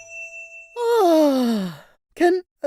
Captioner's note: ding!